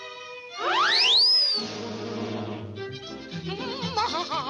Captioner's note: air squeals; bright music; spider humming excitedly